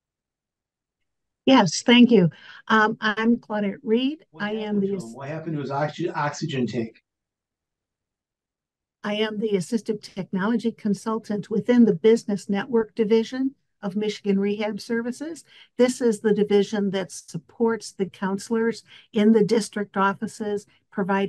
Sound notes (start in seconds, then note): 4.3 audio interference